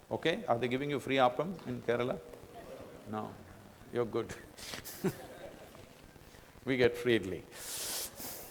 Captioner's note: laughter